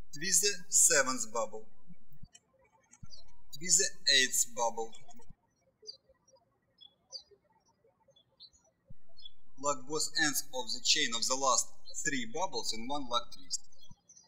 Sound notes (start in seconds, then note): 5.8 birds chirping